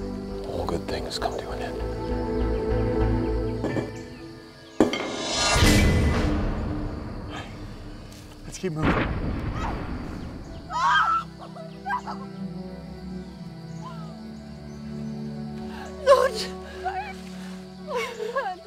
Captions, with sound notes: - All good things come to an end. - Lets keep moving. (grenade bangs) (crying) - Not Mike!